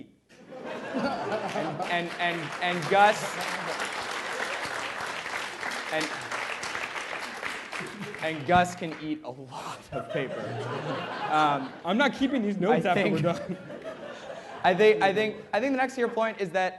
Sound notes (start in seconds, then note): 0.4 laughter; 1.3 applause